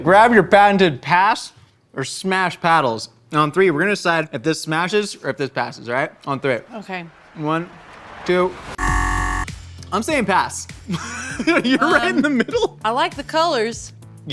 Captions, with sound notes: Grab your patented pass or smash paddles and on three we're gonna decide if this smashes or if this passes, all right? On three. - Okay. - One, two. (buzzer sounding) I'm saying pass. (laughs) Are you right in the middle? - I like to colors.